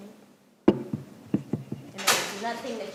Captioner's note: video equipment rattling